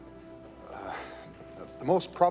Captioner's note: moan